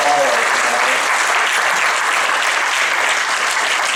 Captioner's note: applause